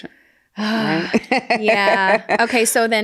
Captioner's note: sighs; laughs